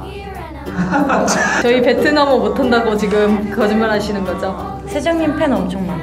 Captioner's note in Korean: 웃음